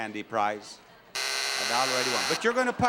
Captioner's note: buzzing sound